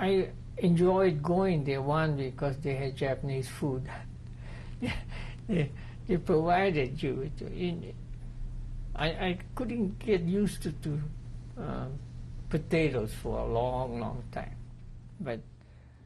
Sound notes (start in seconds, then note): 4.8 laughs